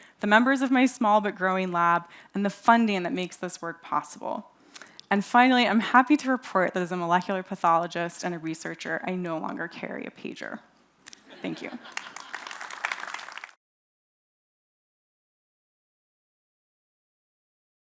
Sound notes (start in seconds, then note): 11.3 audience laughs; 11.6 audience applauds